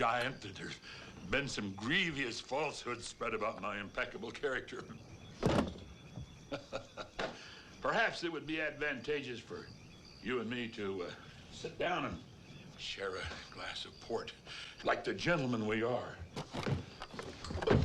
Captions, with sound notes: Giant, that there's been some grievous falsehood spread about my impeccable character. (gun thuds) (Hezekiah laughs) Perhaps it would be advantageous for you and me to sit down and share a glass of port. Like the gentleman we are.